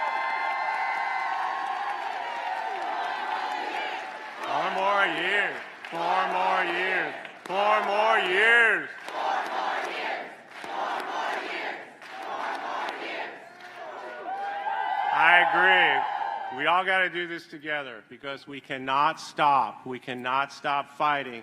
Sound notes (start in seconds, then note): 4.1 applause